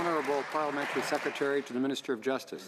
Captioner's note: applause